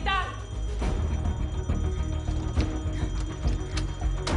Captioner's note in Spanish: Sonido de alarma